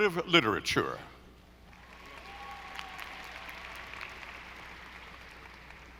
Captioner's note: audience applauding